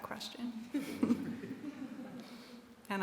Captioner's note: laughter